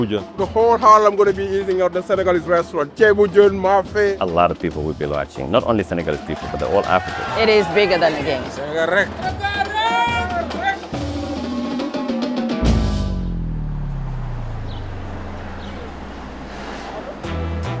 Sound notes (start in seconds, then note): 9.0 non-english speech; 14.0 birdsong, traffic